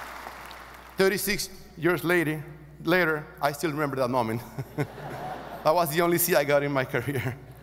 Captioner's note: laughs